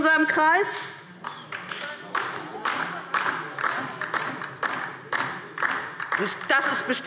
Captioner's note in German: Beifall DIE LINKE